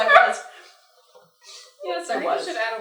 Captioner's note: laughter